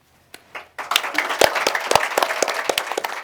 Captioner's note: applause